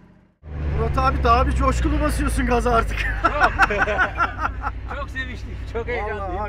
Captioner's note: laughs